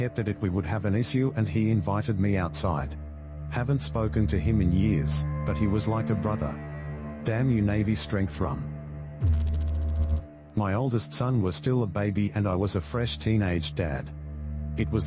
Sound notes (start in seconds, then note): 9.2 electrical noise